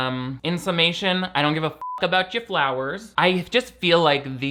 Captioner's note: beep